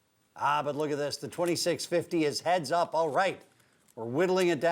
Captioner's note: none